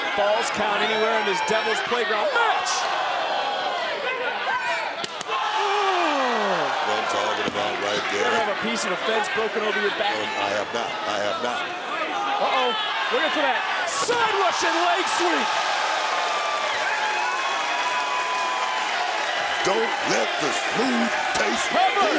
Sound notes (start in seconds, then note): 15.5 audience cheers